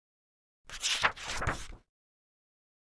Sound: pages turning

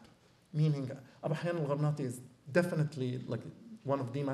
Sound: non-english

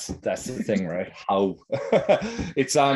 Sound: chuckles

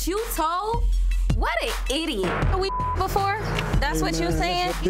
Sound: beep

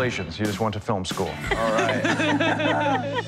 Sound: laughter

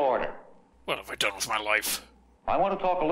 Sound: as guy, quietly

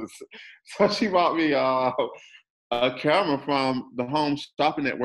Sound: chuckles

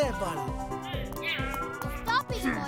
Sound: angry grumbling

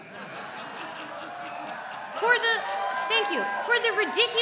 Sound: audience laughs

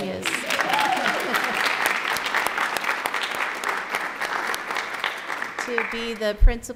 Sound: applause

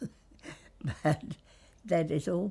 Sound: laughs

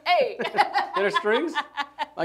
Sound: mockingly; laughs; mockingly

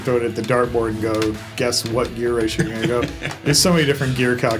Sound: chuckles

